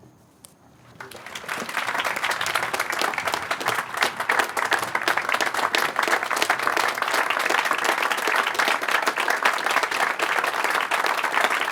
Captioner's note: applause